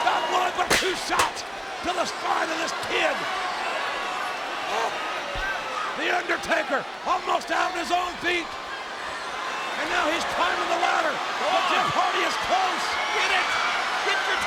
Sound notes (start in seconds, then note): 4.2 audience shouting